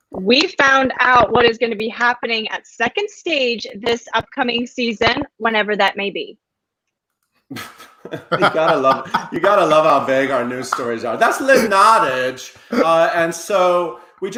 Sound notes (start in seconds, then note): 7.5 laughing